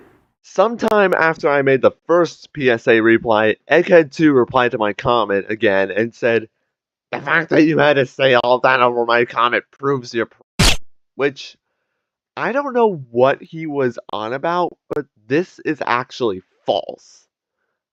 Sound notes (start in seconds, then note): 0.0 gunshot; 10.1 silenced gunfire